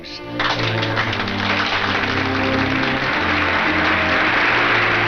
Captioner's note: audience applauds